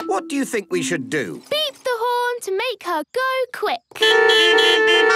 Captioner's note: beeping